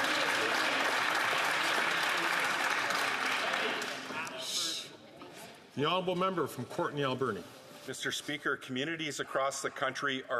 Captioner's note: some Applause